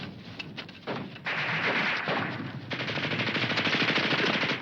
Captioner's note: guns firing